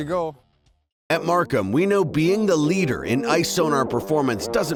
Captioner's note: voiceover